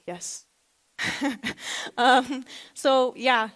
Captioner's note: laughs